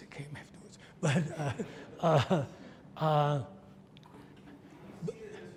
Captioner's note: audience laughs